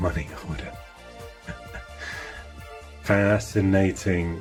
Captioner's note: laughing